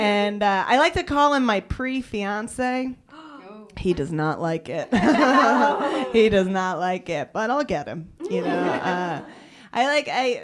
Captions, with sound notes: I like to call him my pre-fiance. (gasping) He does not like it. (laughter) He does not like it. But I'll get him.